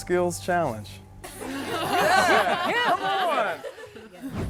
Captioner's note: laughing